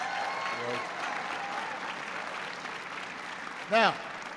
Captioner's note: applause